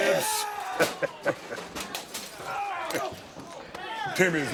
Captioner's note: glass shattering